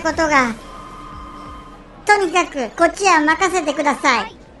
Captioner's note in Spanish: suena el teléfono